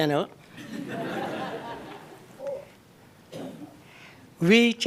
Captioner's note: laughter